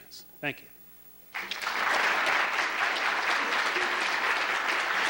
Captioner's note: applause